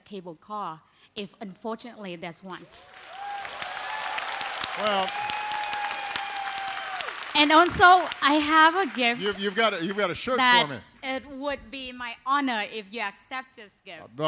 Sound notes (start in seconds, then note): 2.7 applause